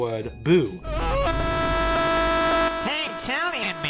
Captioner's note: scream